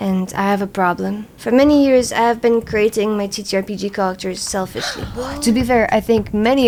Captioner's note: gasps